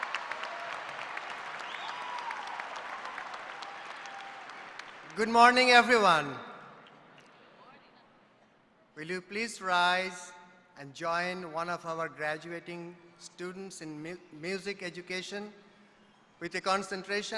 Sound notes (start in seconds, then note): 3.2 applause